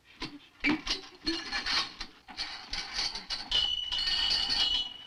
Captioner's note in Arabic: أصوات ارتطام المعادن